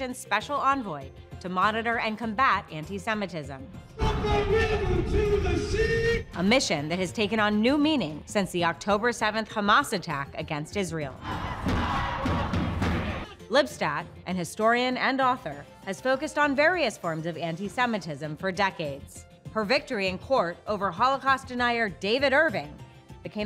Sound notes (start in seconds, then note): 4.3 voiceover; 11.2 crowd chanting